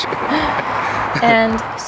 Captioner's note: laughing continues